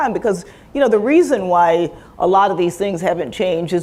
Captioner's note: none